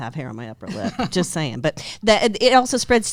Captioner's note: giggles; stammers